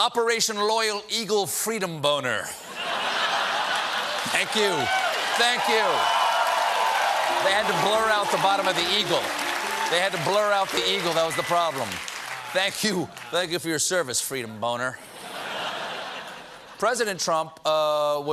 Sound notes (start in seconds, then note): 2.3 applause; 2.6 laughter